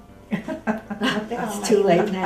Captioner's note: laughter